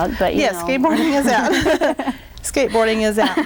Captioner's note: laughing